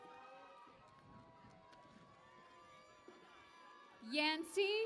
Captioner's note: cheering and Applause